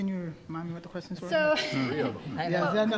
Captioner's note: laughing